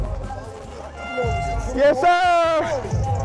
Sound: horn

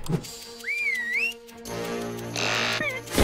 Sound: timer ticking; wolf-whistles

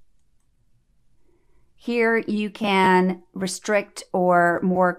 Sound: click

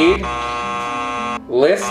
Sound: buzzer buzzing

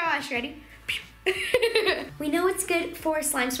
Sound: laughing

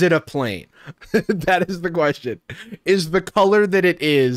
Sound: chuckles

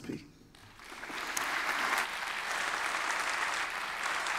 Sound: applause

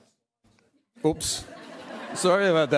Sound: laughter

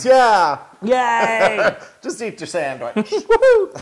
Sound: laugh; laugh

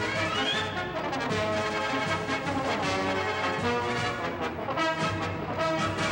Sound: cheers and applause

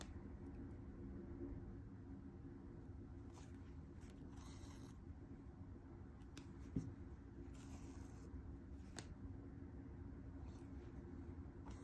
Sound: stitching

